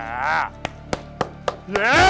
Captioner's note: clapping